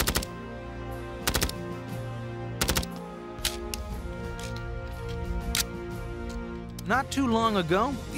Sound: gun shots

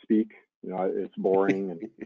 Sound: laughing

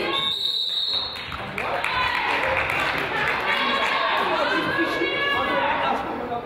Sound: whistle blows; crowd applauds; coach yells

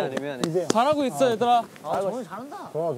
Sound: clapping

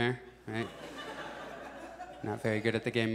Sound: audience chuckles

